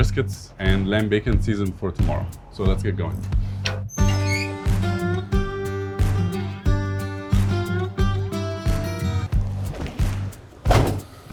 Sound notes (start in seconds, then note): 3.5 door creaks; 4.0 mid-tempo bluesy rock music